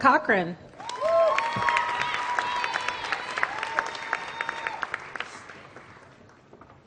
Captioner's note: applause